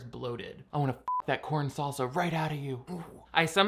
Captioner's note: beep